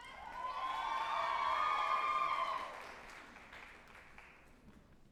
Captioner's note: group applauding and cheering